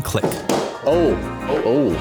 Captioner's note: air handler snapping